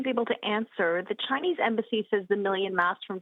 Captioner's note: speaking French